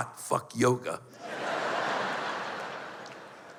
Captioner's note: laughter